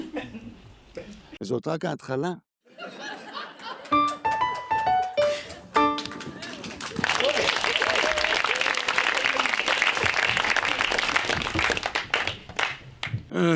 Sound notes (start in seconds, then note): 2.7 audience laughs; 3.8 piano music; 5.6 audience applauding